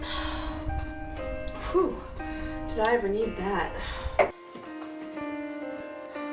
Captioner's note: relieved sigh